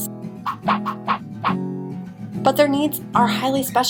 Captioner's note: whooshing sound